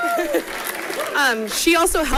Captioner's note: people cheering and clapping; chuckles